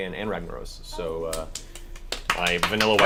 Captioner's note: all cheer